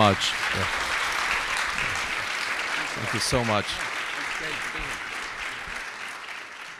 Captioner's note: applause